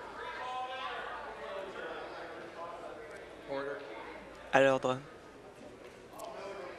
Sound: conversation din

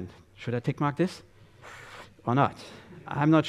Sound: gusty inhalation

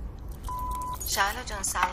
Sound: message beep

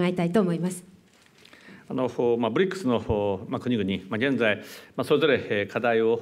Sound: speaking japanese

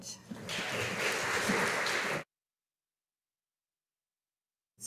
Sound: audience applauding

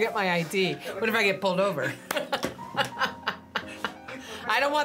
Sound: laughs

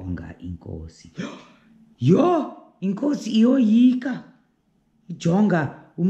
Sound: gasp!

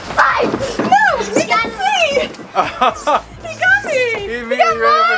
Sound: laughing

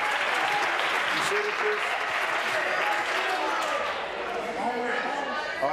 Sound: applause

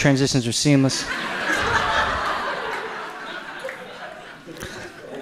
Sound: audience laughs

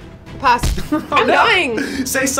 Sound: stamp thuds; chuckles

